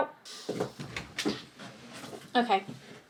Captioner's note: table clanking